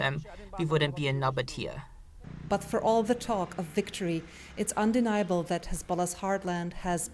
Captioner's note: voice-over